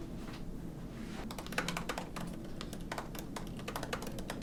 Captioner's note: typing